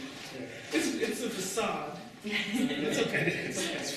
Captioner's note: audience laughter